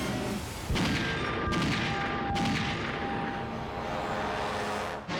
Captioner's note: gunshots resonate